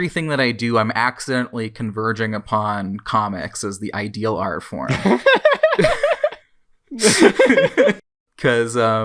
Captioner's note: both laugh